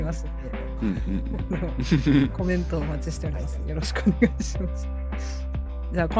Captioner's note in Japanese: 笑い